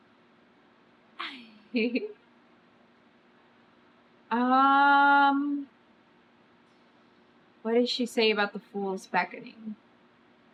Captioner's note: laughs